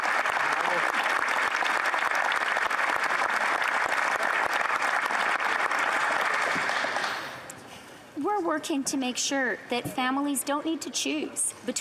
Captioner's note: applause